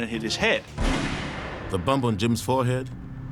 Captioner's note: gunshot